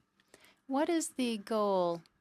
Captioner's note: speaking French